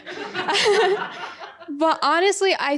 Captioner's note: audience laughing